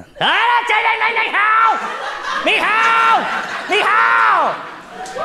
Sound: yelling in foreign language

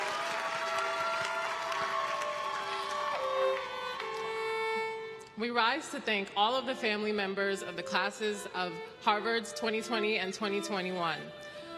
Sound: applause

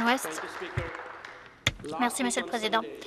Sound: applause

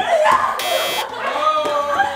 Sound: buzzer

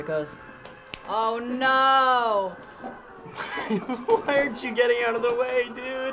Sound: laughs

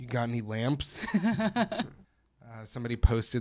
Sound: chuckles

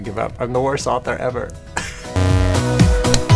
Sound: buzz; laugh

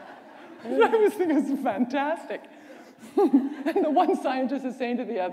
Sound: laughter

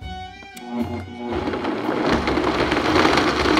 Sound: blender running

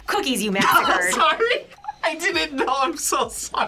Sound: laughs

